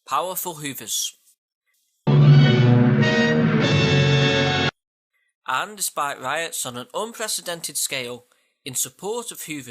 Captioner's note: duh duh sound effect